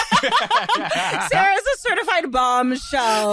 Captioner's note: laughing